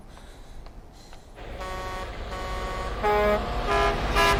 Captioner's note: horns honking